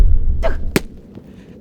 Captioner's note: dink